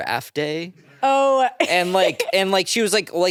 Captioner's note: chuckles